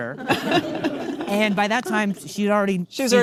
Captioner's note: audience laughing